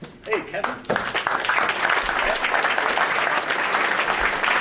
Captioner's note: audience applauding